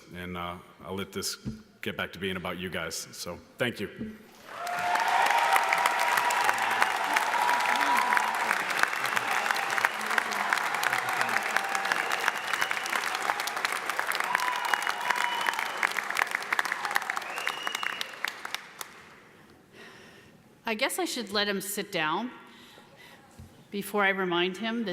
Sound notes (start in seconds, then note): 4.8 audience applauds; 4.8 audience cheers